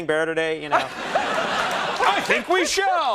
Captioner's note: audience laughing, clapping